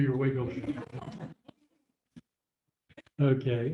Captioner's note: laughter